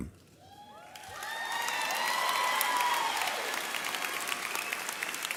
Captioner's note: audience cheering